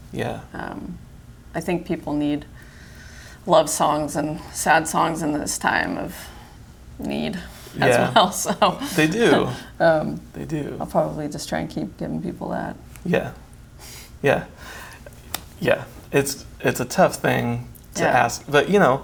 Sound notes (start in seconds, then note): 7.8 chuckles